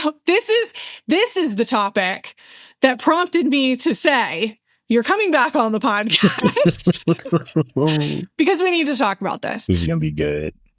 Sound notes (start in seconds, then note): 6.0 laughing